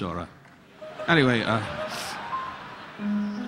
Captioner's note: audience laughing; relaxing piano music continues